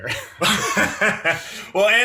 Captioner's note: laughs